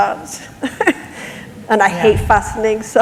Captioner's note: laughter